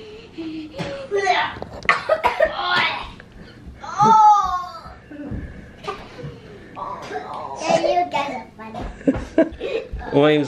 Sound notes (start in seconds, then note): 1.8 coughs; 4.0 groans